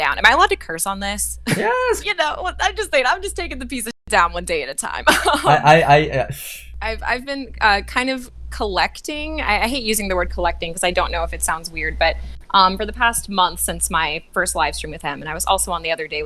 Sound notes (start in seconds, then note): 1.4 laughs; 5.1 laughs; 5.8 exhales